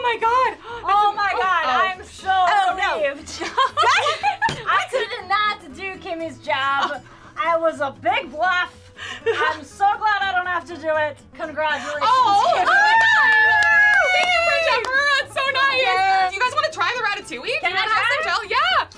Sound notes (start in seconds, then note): 3.3 laughing; 12.2 cheering and applauding